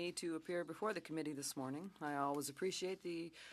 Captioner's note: speaking French